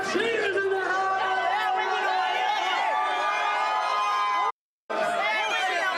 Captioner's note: crowd screaming and yelling